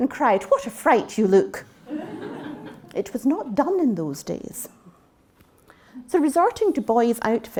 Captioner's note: interruption: laughter